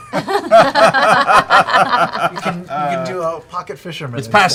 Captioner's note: laughter